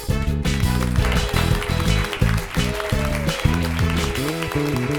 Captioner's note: audience cheering and clapping